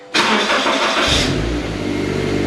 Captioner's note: car engine starting up